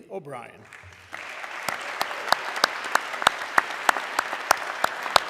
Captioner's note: audience clapping